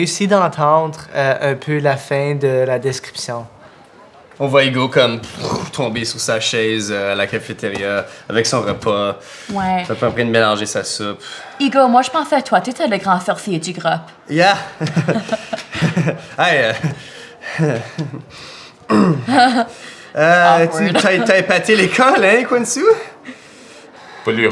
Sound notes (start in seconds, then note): 15.2 Hugo laughs weakly; 19.1 Émeraude laughs